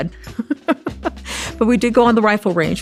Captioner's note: chuckles